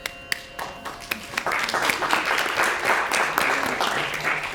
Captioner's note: applause